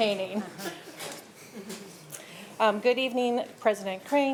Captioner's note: board members chuckling